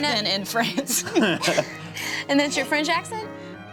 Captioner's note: laughs